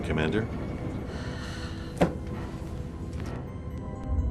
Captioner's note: sigh